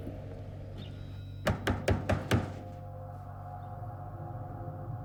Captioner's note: knocking; ominous music